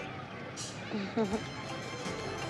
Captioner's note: chuckling